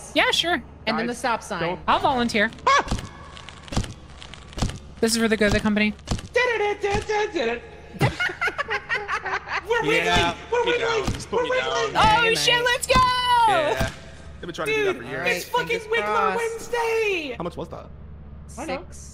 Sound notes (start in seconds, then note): 2.8 yelps; 3.6 stop sign hits; 7.9 all laugh